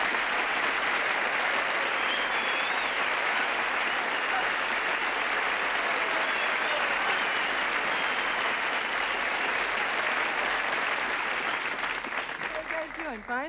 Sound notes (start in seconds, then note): 5.0 cheers and applause